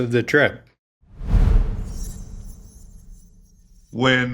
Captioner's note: graphic whooshing